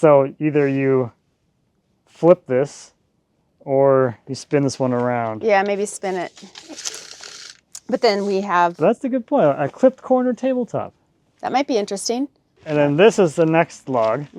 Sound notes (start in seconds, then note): 5.5 measuring tape rattling